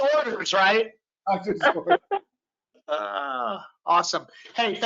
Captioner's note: laughs